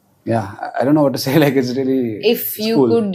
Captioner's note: laughs